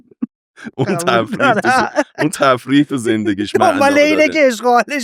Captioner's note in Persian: خنده